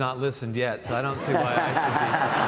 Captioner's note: audience laughs